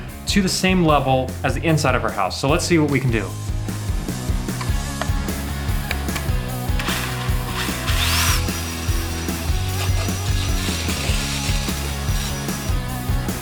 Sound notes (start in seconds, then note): 3.9 upbeat music; 6.7 saw whirling; 9.8 upbeat music continues